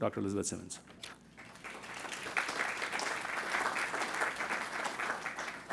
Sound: crowd applauding

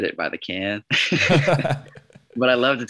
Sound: laughs

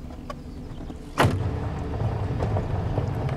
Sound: car door slams

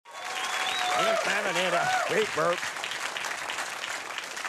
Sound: audience applause

